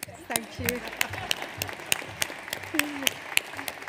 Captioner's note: audience applauds